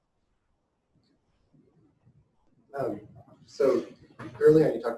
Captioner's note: pause